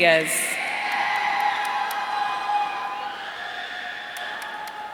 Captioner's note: audience cheering